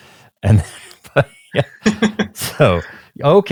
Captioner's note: laughing